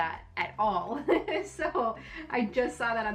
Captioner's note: laughing